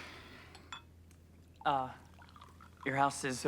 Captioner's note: glass clinking; champagne trickling